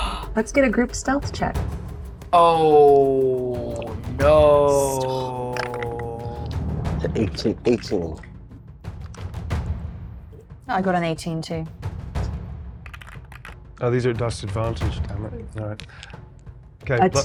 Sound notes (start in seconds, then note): 12.9 dice clanks